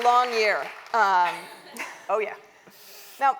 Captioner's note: applause